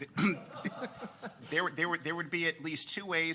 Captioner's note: people laughing